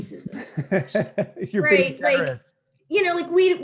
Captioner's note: laughter